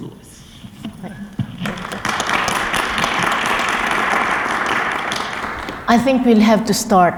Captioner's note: applause